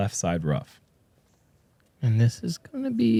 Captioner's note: none